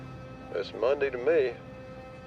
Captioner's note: on phone